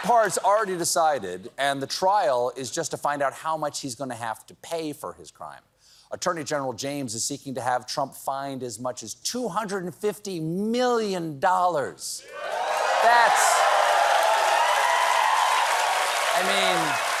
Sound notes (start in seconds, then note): 12.2 cheers and applause